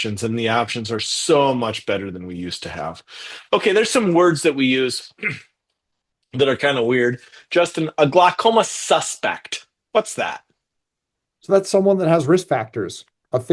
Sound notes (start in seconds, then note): 5.2 clears throat